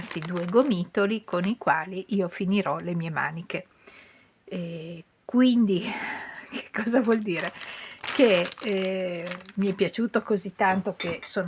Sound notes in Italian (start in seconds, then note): 5.4 sospiri